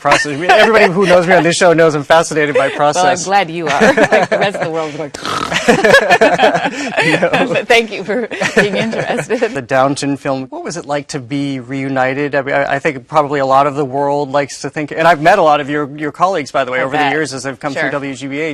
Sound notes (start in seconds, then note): 5.2 snores; 5.4 laughing